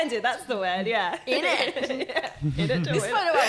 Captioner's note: laughing